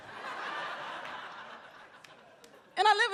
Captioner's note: audience laughs